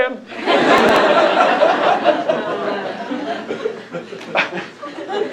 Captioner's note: laughter